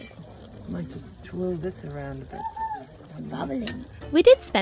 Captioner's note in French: Ça frémit